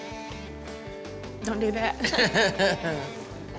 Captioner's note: laughs